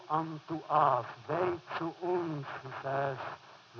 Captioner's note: foreign language